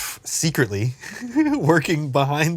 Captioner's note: exhales